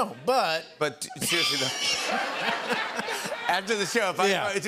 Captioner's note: laughter